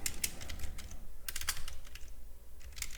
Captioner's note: typing